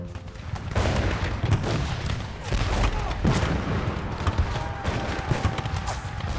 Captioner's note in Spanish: Explosiones, disparos